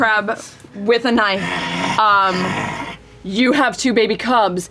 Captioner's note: growls